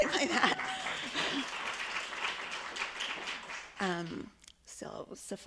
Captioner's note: audience cheering and clapping